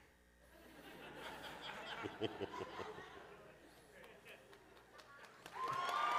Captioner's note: laughter; applause